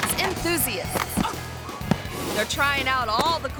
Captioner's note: skater grunts